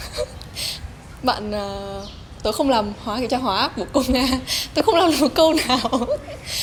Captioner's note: laughs